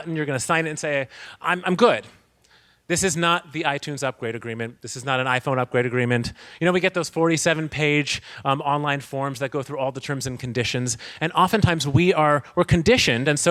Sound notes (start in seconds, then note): none